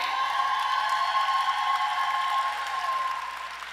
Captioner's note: cheering